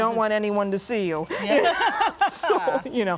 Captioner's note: laughing